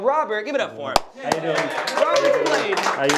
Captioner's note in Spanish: aplausos